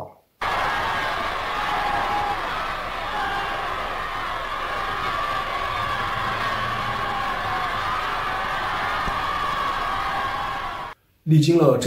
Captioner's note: cheers